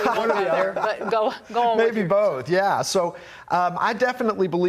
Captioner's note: laughter